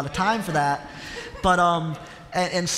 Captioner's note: laughter